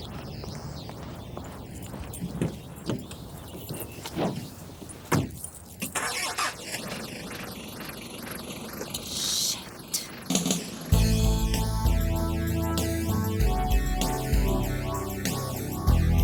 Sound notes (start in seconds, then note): 6.1 car engine revving; 10.9 bright instrumental music